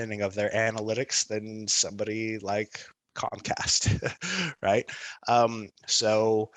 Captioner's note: laughs